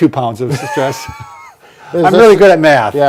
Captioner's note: both laugh